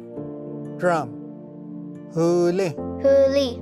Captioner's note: repeats in Cherokee